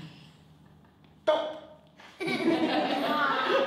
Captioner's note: laughter